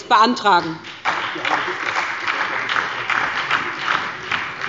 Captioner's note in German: Beifall bei der SPD